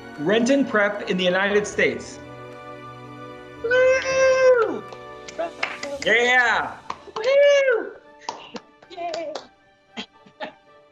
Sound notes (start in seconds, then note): 3.6 cheering